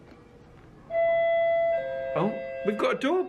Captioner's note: bell rings